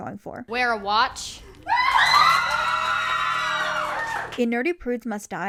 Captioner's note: cheers and applause